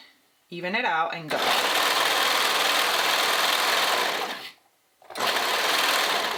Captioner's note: sewing machine whirring